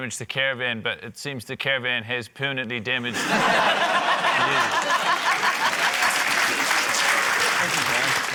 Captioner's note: laughter, applause